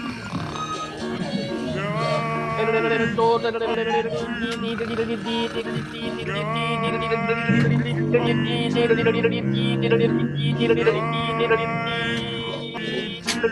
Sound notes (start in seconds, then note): 6.9 wargs howling